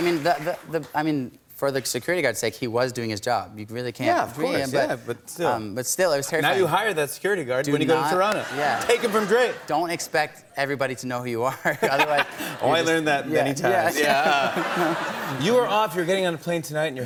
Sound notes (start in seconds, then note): 11.7 laughs